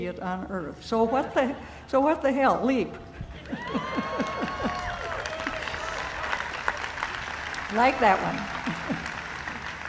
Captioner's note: cheering, laughing